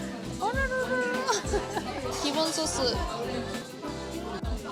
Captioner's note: laughs